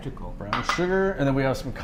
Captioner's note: glass clinks